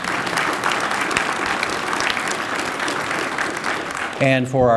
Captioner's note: applause